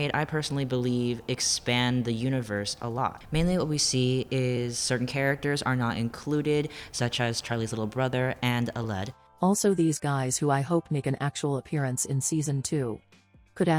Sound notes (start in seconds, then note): 9.4 robot voice